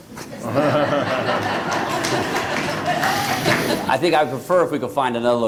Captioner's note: laughter